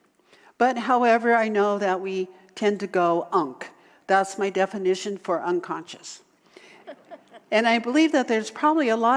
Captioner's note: audience laughter